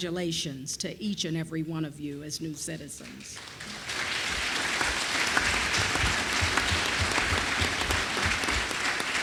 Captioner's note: applause